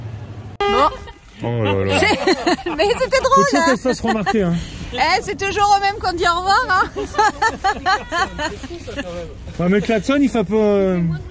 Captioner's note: laughs